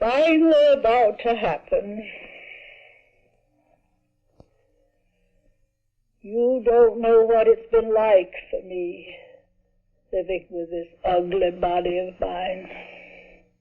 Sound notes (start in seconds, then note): none